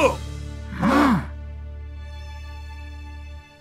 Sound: Big Bo exclaims; all gasp

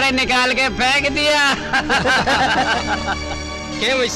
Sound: laughing

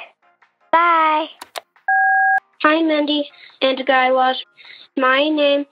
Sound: soundbite of beep

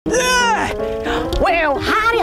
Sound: grunts

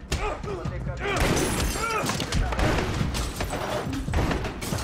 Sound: glass breaking

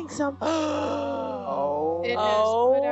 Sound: man gasping

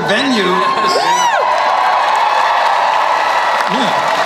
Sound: crowd cheers

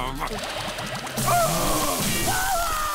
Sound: screaming

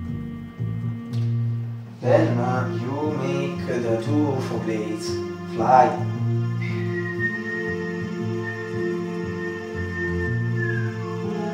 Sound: whistle

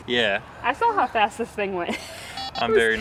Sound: laughs

